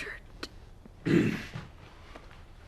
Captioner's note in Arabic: ينظف الحلق